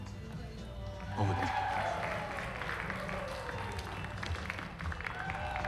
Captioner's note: cheering, applause nearby